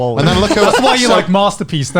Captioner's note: laughs